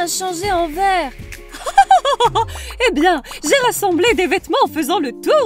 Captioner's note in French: rire